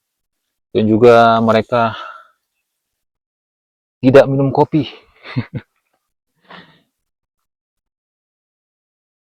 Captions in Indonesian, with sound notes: dan juga mereka tidak minum kopi. [tertawa]